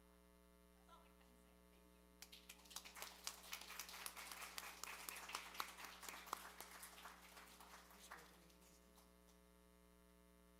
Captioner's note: applause